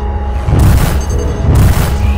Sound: bam

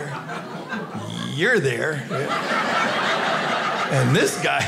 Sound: audience laughing

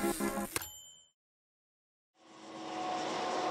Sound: typewriter dings

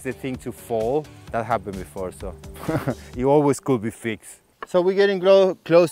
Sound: laughs

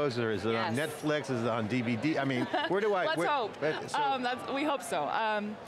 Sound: laughs

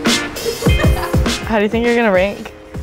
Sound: laughing

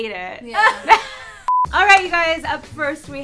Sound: girls laugh

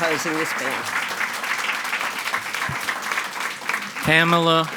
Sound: audience clapping

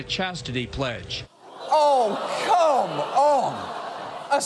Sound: audience gasps

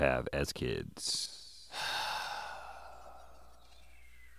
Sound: Link sighs

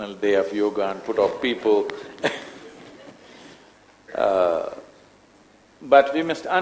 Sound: laughs

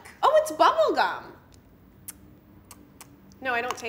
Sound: lips and tongue smacking

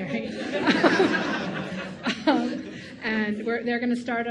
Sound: audience laughing

